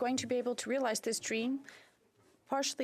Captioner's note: speaking French